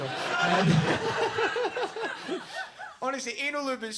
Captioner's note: audience laugh